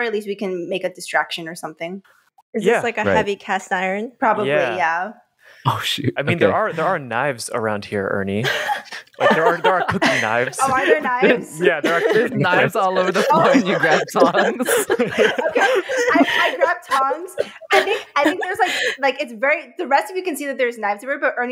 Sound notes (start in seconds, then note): 8.5 laugh in succession